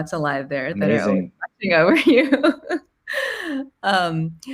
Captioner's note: laughing